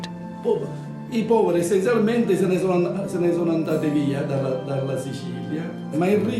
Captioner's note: speaks in foreign language